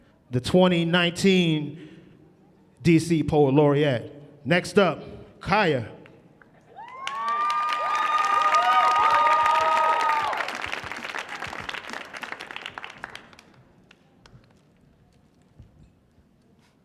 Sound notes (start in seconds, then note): 6.7 audience cheering